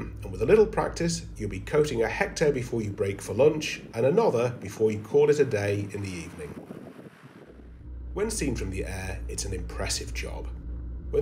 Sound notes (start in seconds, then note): 5.4 drone whirring; 6.6 wind blowing